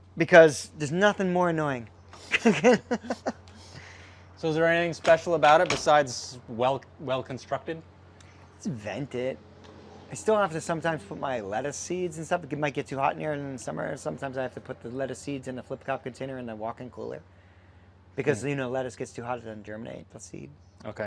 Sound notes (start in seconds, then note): 2.1 laughs